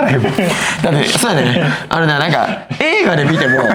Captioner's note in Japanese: 笑い